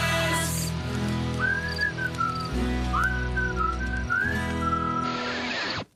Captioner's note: whistling